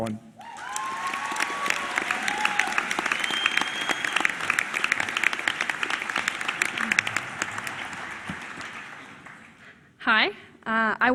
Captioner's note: applause